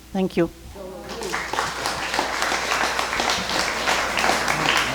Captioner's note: crowd clapping